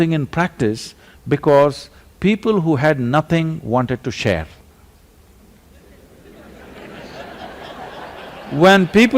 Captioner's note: laughter